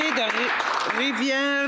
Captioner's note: applause